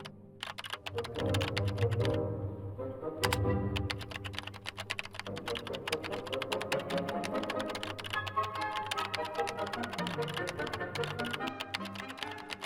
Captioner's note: dramatic music; keyboard clicking